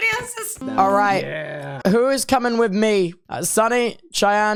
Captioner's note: in English